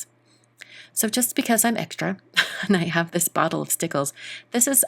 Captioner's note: chuckles